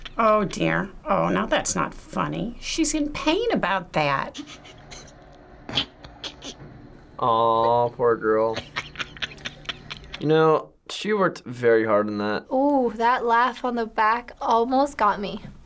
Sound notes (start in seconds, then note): 4.6 viewer snickering; 8.3 viewer cackling